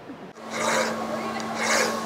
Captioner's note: tool scraping